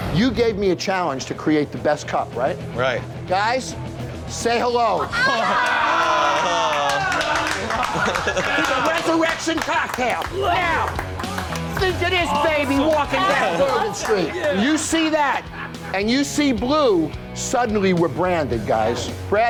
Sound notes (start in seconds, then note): 4.9 staff cheering and applauding